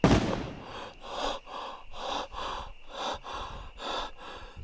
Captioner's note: Keith hyperventilating